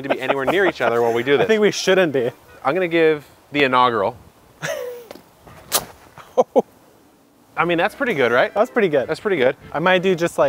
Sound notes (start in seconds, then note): 4.6 chuckles; 5.6 machete whips